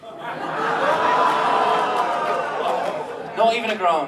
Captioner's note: audience laughs and groans